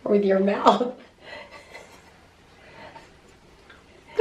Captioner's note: laughing